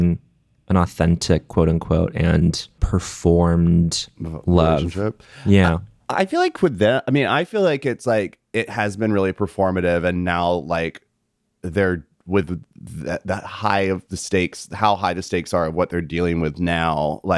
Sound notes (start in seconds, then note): none